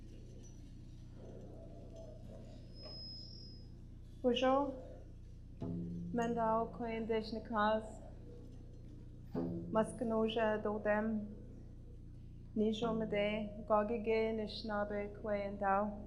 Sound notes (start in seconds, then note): 3.9 speaking in Ojibway for next minute